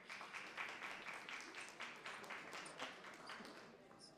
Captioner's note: applause